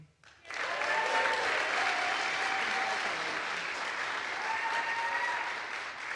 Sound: audience applauds; audience cheers

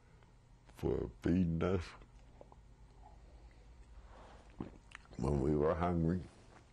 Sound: drinks

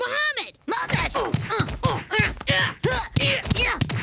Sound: twins grunting

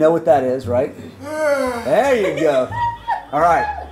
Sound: lion noise

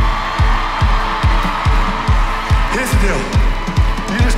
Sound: cheering

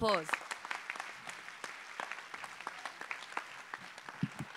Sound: applause

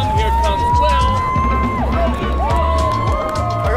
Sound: cheering

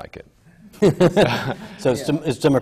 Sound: laughs

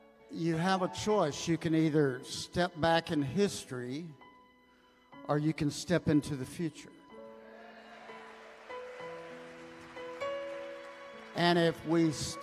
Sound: congregation cheers

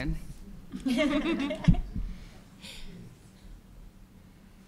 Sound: laughter

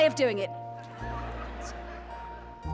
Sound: audience laughs; gentle music

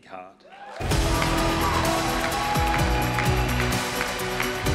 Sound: cheering, applause

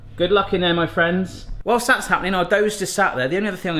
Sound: none

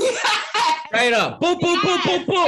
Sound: laughing

